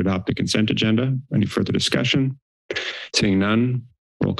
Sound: inhales

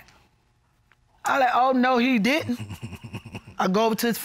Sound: chuckles nervously

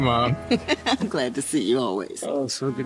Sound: chuckles

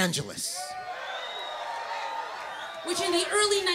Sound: cheers

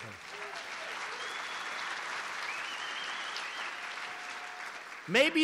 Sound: applause

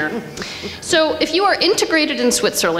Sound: audience laughs

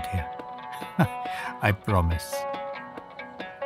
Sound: chuckling

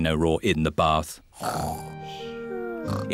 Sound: snoring

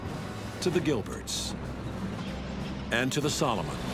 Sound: tanks rumbling

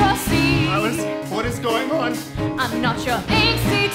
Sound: speaking

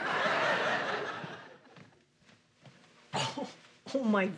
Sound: laughs

